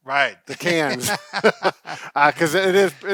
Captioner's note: chuckling